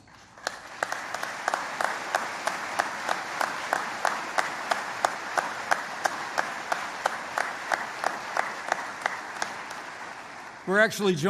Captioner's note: applause